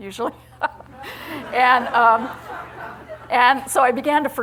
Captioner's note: laughter